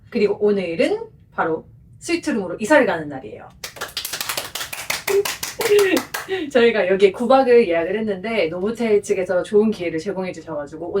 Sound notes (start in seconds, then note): 3.6 applause